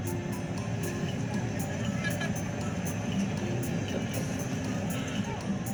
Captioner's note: featuring a gentle breeze